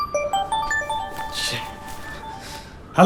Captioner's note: mobile ringing